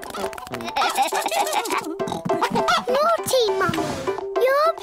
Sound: giggling

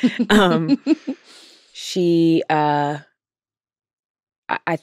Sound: laughs

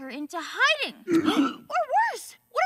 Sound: grunts

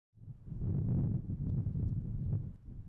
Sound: wind blowing

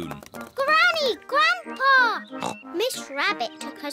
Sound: oinks

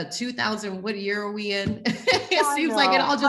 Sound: laughing

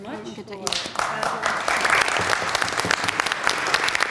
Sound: applause

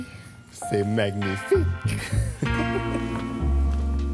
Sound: chuckles

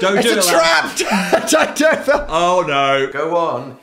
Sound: laughs

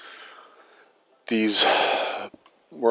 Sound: sigh

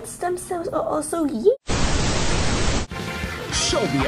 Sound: static

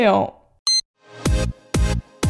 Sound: beep!

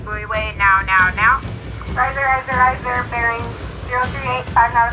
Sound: radio chatter

